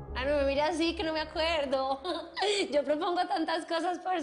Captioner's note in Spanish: Ríe